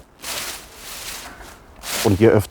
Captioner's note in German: Raschelnde Geräusche